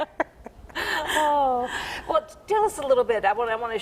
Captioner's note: both laugh